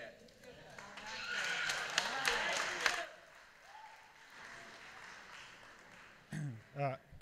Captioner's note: applause